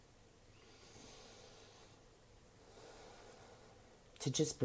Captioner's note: breathing deeply